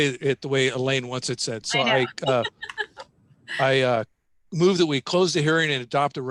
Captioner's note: laughter